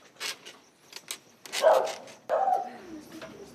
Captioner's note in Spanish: Ladridos